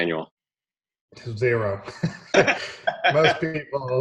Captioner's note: both laughing